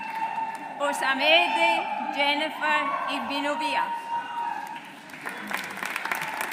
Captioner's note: audience applauds